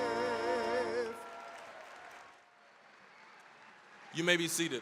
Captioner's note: applause, cheering